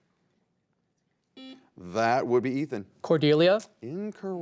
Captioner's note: buzzer beeps